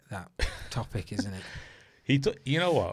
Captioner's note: laughs